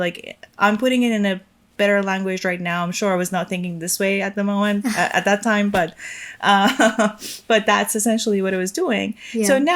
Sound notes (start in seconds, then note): 6.5 chuckling